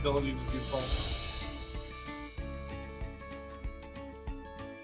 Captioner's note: chiming